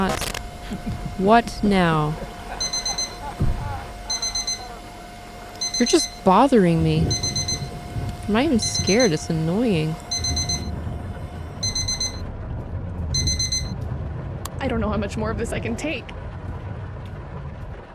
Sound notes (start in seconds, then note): 0.1 computer glitches; 2.1 man's laughter; 4.2 digital alarm goes off; 11.2 digital alarm continues; 13.1 alarm off